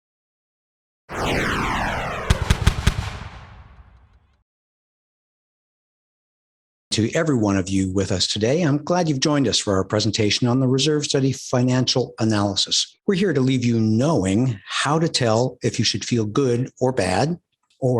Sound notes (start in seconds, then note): 1.1 logo whooshes; 2.2 logo thuds